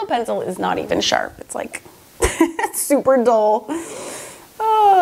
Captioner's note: laughs